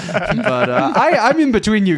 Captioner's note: laughing